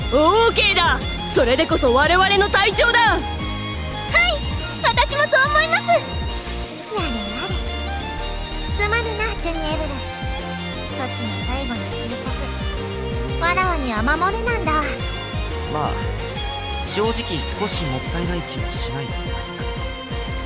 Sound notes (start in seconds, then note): 7.9 sigh